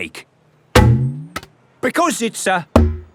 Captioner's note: thunks